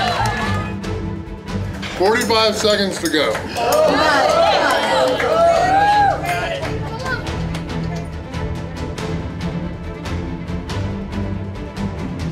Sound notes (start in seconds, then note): 1.7 crowd; 3.3 cheering